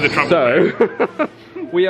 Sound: laughs

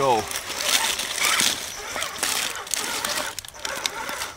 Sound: road noise

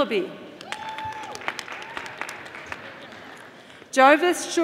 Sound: audience applauding

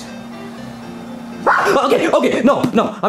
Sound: Junior screams

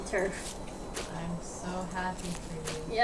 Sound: sarcastic

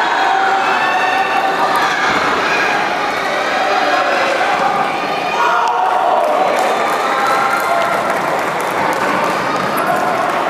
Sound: applause

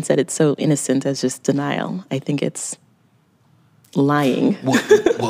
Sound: laughs

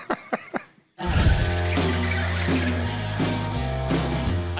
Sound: Rick laughs; wheels squealing; rock music playing

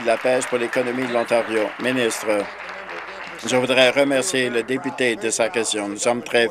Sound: some Applause

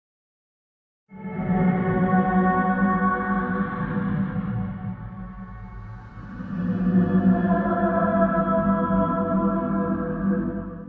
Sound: sound of a creepy dream call

